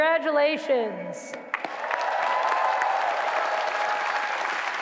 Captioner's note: applause